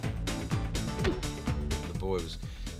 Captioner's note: leg thumps